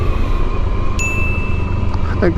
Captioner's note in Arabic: دينغ